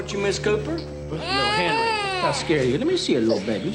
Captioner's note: baby crying